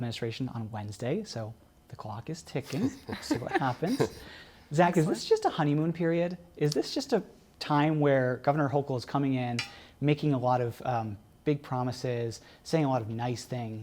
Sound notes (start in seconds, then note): 2.6 laughter